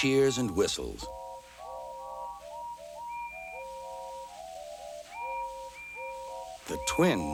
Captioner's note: tooting, whistling